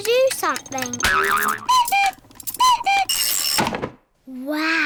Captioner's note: clock cuckoos